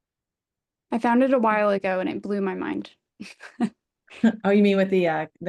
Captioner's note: chuckles